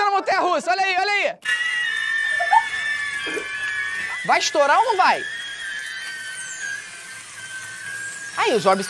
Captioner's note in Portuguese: orbs faz barulho agudo